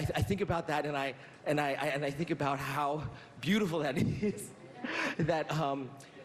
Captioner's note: none